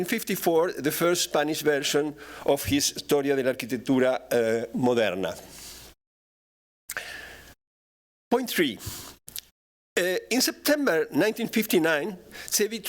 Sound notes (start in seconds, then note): 3.0 non-english speech